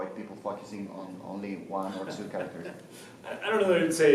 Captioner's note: laughs